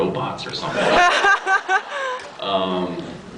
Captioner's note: laughs